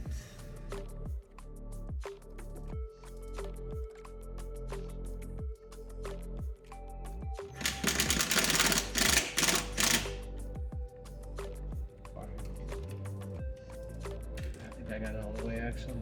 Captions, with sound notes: (upbeat music) (drill whirring) I think I got it all the way, actually.